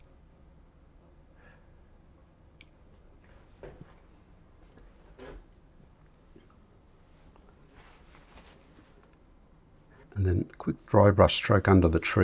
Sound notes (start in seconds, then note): 3.3 silence